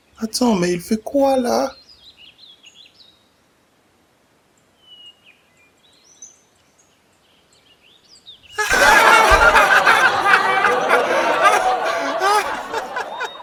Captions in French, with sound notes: Attends, mais il fait quoi là ? [Chant des oiseaux] [Rires bruyants]